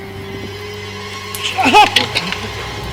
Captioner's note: screams in pain